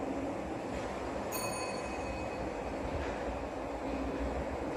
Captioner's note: ding